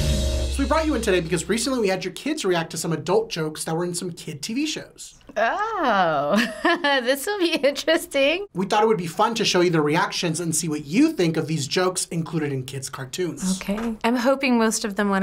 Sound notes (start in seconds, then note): 0.0 rock intro; 6.2 chuckles